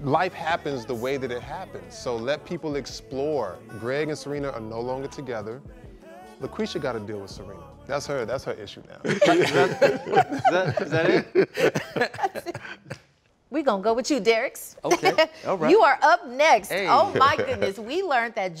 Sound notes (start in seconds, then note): 9.0 laughter